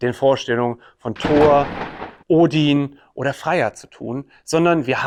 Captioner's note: thunder and lightning strike